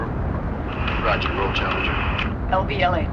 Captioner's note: man On Radio